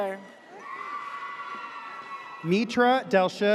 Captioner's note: audience cheers